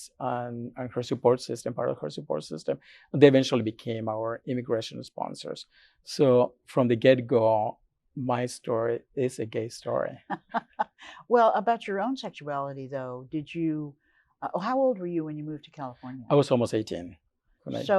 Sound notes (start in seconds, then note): 10.3 laughs